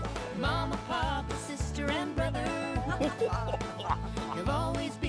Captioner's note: both Chuckling